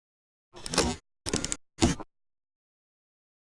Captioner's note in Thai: เสียงเอฟเฟกต์